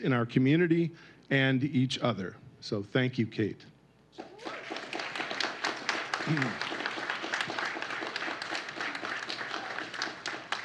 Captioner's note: applause